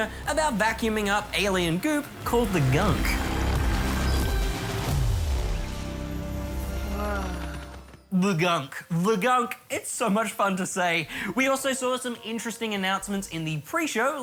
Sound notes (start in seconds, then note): 6.8 man exclaims